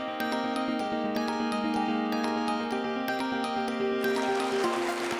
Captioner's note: applause